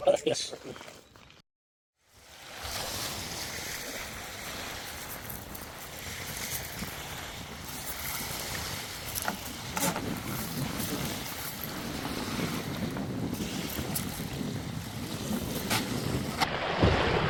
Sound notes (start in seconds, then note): 2.5 water crashing; 9.1 kayak bumping the ground